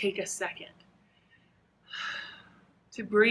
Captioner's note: breathes